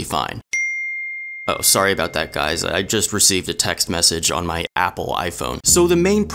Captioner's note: ding